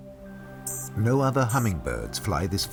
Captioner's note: chirping